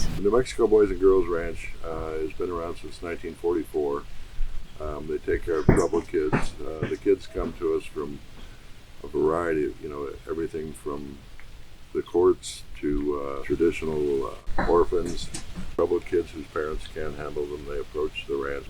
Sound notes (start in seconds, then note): 10.1 background noise: hunting dogs going through doggy doors